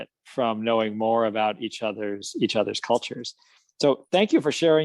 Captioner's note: none